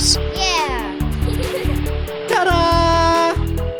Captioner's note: giggling